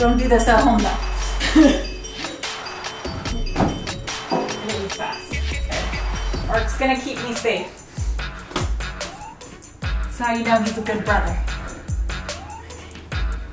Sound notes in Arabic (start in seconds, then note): 1.2 يضحك